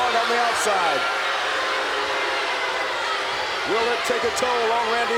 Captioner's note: crowd boos